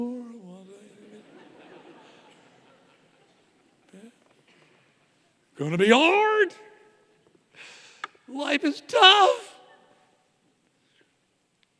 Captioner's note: audience laughing